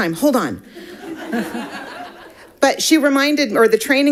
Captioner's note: audience laughing